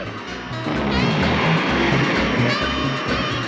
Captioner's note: zooming